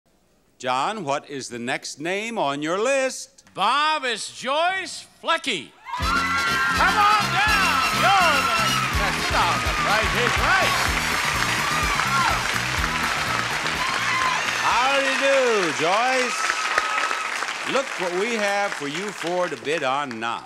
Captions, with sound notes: John, what is the next name on your list? Bob, It's Joyce Flucky. (audience cheers and applauds) Come on down! You're the next up on the Price is Right! (audience cheers and applauds) How do you do, Joyce? (audience cheers and applauds) Look what we have for you four to bid on now.